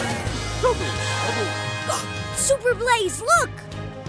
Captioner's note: gasps